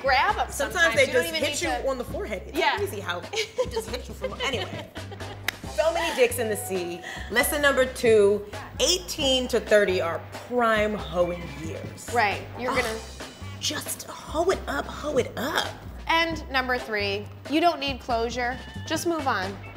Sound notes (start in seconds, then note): 4.8 laughing; 5.2 hands clapping